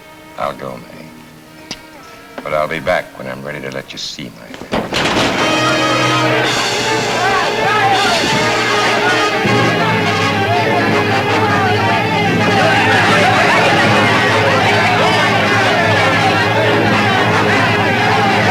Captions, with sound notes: - I'll go, Mae, but I'll be back when I'm ready to let you see my hand. (table crashes) (dramatic, exciting music)